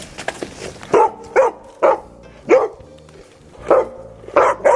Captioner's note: dogs growl; dogs bark